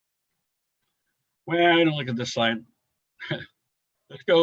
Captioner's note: chuckles